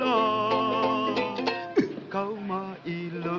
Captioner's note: grunts; singing in hawaiian